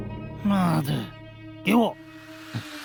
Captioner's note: Mandarin